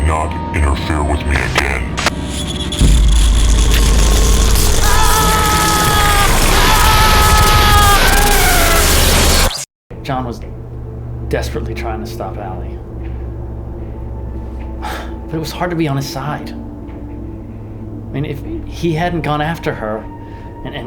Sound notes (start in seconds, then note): 4.2 screaming